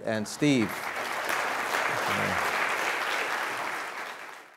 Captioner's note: audience applauding